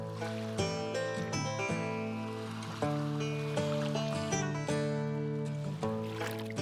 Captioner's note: peaceful music; water lapping